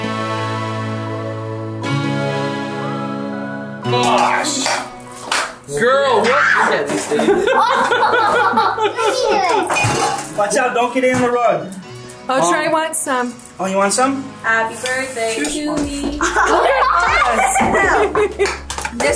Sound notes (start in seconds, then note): 0.1 upbeat electronic music; 5.0 can clanks; 6.2 squeals; 6.3 group laughs; 16.1 group laughs